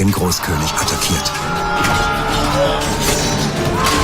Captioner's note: screams